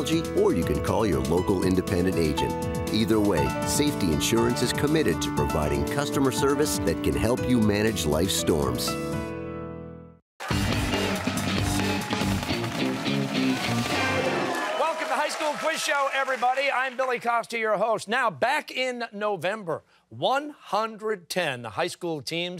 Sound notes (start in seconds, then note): 10.4 cheers and applause